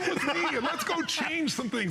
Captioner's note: laughter